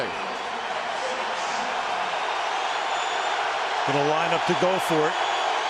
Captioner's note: crowd cheering